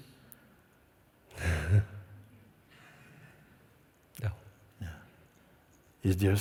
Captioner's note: questioner laughs